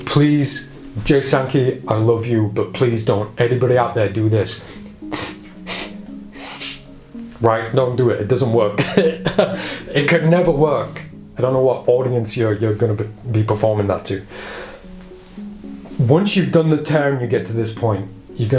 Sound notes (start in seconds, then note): 6.6 ripping noises